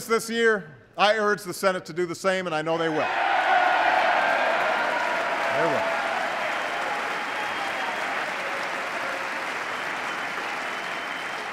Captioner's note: applause